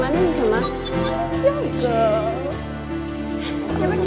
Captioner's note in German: Lachen